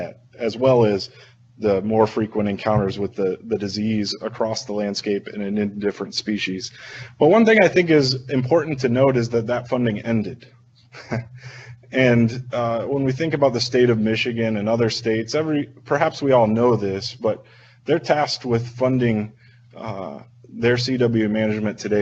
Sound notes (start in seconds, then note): 10.9 chucking